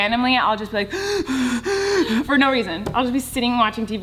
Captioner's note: panting